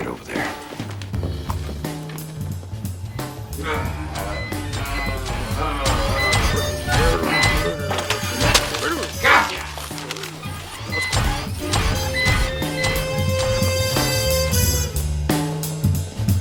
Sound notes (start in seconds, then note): 3.5 grunting, beeping